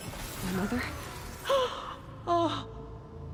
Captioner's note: gasp